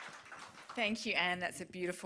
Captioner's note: applause